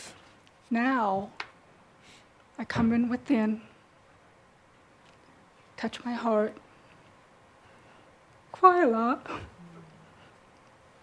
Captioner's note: she’s now starting to cry